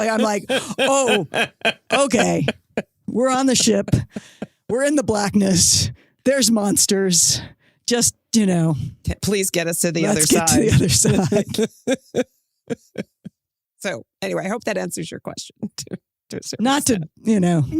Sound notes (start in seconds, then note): 10.2 laughs